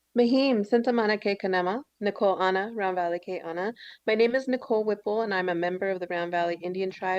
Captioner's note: foreign language